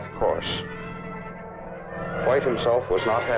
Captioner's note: plane whirring